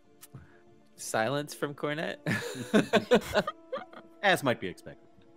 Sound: laughs

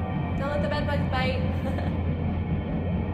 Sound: Spring chuckles

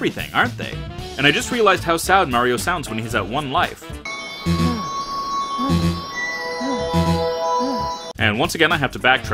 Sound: Mario sad panting

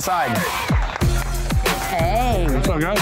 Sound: clapping

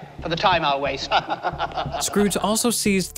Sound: men laughing

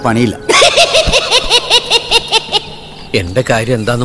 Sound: Cycle laughs

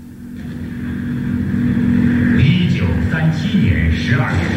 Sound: sound of bombing and a Chinese radio broadcast

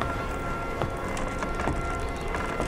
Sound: wood creaking

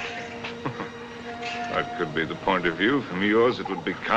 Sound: chuckles

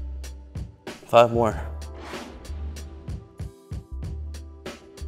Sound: air whooshing

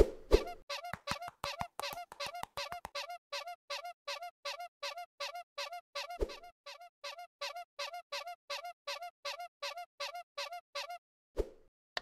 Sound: squeak sound

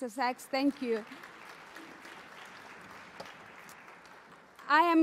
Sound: applause

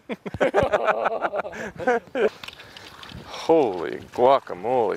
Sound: laughing

